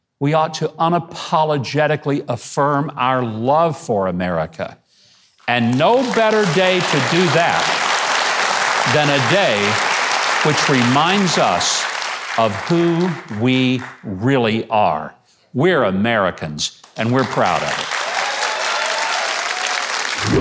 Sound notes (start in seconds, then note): 7.6 audience applauding; 16.8 audience applauding